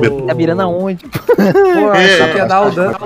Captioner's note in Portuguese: risos